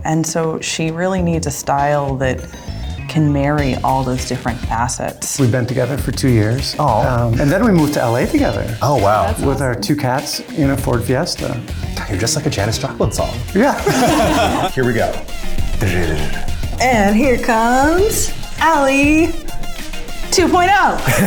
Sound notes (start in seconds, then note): 13.6 everyone laughs